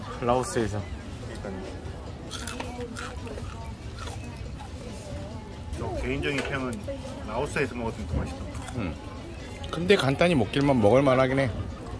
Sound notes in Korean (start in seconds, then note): 2.2 아삭아삭